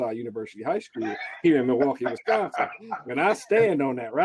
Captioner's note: laughing